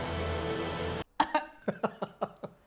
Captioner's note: coughing; laughing